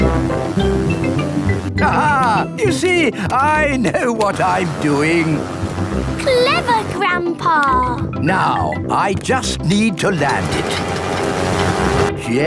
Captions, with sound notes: (LAUGHS) You see! I know what I'm doing! Clever Grandpa! Now I just need to land it...